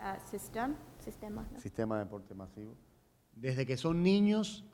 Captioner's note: speaking in Spanish